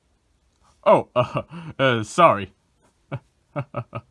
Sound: chuckles

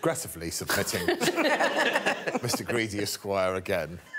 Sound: Victoria laughing

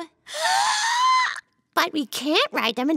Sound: Mimi squeals

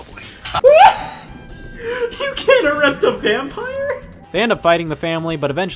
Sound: laughs

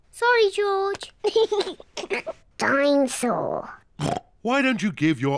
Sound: laughs; oinks

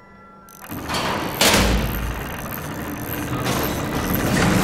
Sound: metal clanking

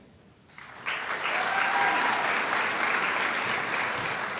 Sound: crowd applauds

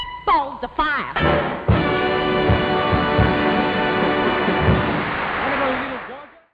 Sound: lively upbeat music swells; audience applauding

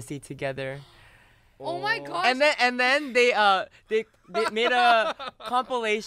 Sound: laughs

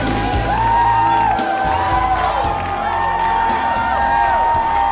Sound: crowd cheering

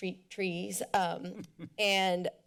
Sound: laughs

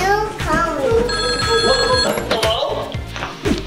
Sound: phone ringing

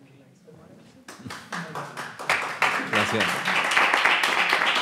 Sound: audience applauds

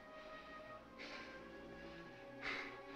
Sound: continues breathing heavily

